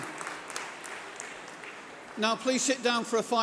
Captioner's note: applause